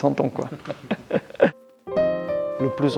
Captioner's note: laughs